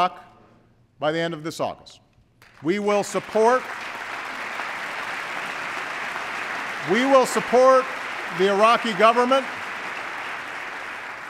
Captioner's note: applause